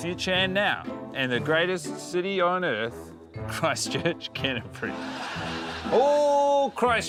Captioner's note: laughs; laughter